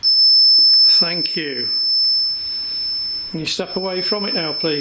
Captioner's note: REM pod beeping